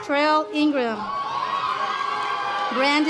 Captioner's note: audience applause